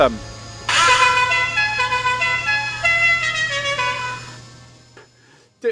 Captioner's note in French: Klaxon